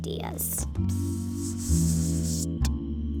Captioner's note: serpent hissing